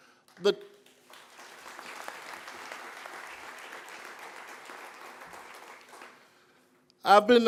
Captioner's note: applause